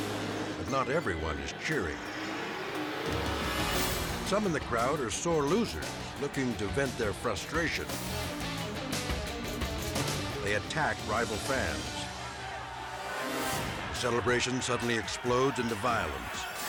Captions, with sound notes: But not everyone is cheering. Some in the crowd are sore losers looking to vent their frustration. (suspenseful music) They attack rival fans. (crowd screaming) Celebration suddenly explodes into violence.